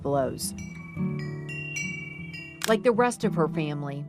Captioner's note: chimes ring